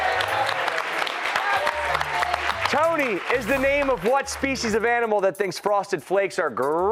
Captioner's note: cheers and applause